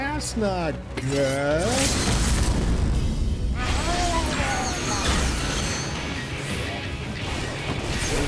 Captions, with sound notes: Ass nod, girl. (explosion) Oh no. (explosions)